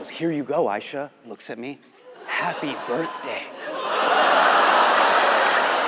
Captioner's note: audience laughs